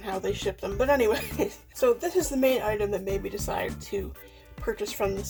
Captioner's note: laughs